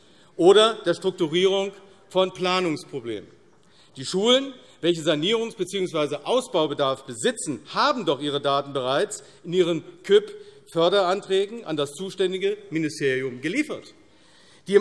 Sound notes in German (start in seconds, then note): none